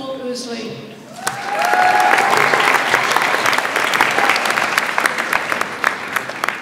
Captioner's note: audience applauds and cheers